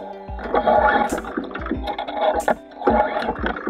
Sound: upbeat music; cord scraping

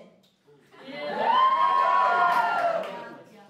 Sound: cheers

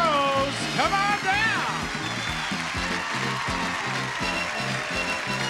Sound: audience cheering

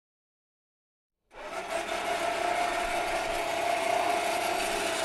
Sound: electric motor sounds

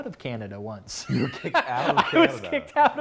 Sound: laughs

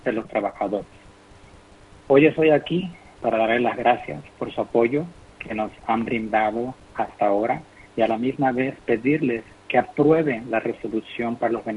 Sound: speaking in foreign language

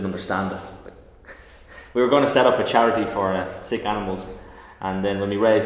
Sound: laughs

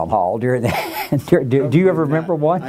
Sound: laughs

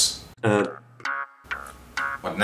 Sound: phone rings again

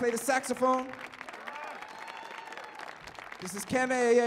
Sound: audience cheers and applauds

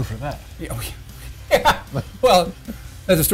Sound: laughs

